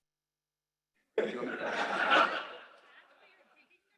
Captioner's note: laughter